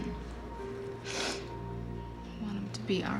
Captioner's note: sniffles